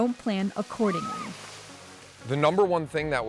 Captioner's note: water sloshes; visitor screaming